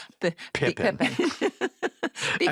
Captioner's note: laughter